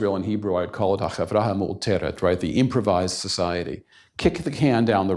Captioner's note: hebrew